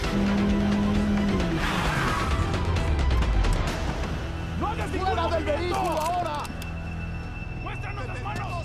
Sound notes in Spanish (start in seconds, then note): 3.3 gritos indistintos